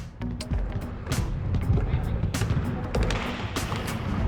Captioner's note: balls thudding